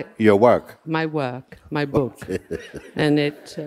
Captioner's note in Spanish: Mooji se ríe